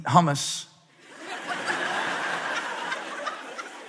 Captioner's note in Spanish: Risas